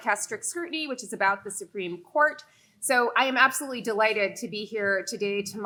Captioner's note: none